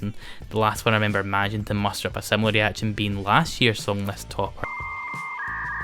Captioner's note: whirring error noise